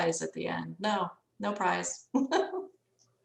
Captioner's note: laughs